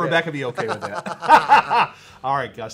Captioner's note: both laughing